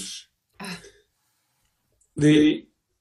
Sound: chuckles

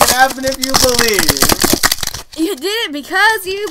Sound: more shaking

